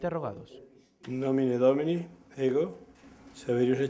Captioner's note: oath-taking in Latin